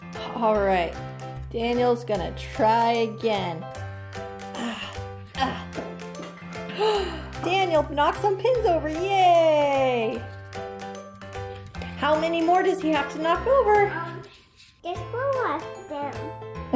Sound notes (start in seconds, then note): 6.7 gasp